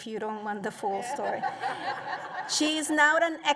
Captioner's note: laughter